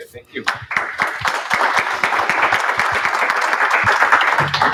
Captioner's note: applause